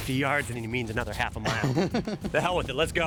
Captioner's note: laughs